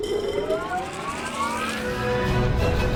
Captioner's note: engine rumbling; upbeat orchestral music